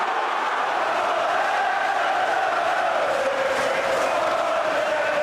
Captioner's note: crowd chanting